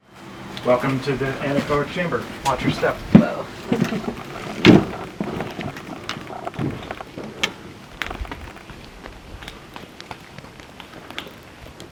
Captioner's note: laughs